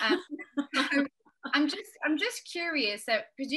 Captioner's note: panelists laughing